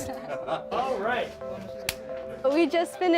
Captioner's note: laughing